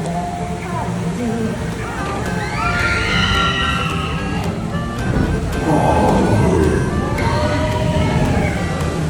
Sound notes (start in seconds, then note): 2.3 screams; 5.4 bear noises